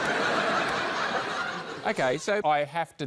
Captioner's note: laughter